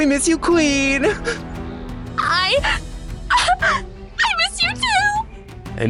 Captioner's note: sobbing